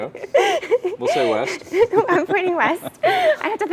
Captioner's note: laugh